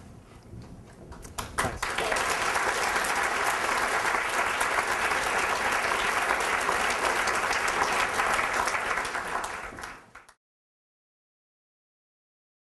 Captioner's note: applause